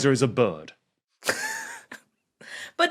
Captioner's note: wheezes